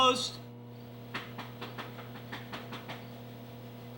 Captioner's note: door knocking